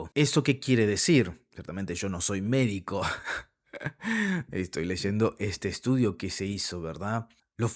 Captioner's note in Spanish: risas